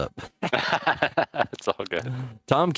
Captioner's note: laughing